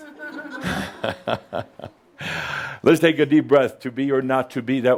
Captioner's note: Adamus chuckles